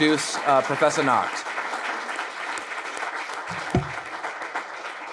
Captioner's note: audience clapping